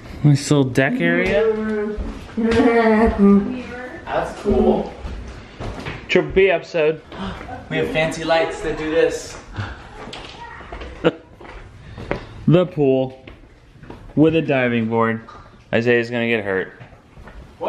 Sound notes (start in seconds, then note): 2.4 hums; 10.9 chuckling